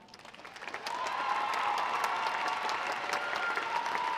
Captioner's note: audience applauding